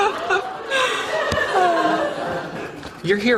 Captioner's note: audience laughter